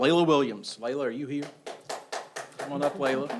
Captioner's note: audience applauds